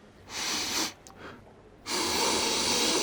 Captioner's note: sniffs